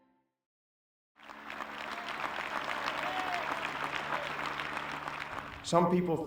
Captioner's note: applause